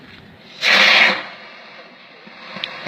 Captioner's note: firework hissing